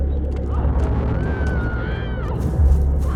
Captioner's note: screaming